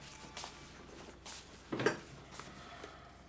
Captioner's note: none